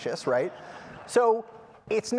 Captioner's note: laughter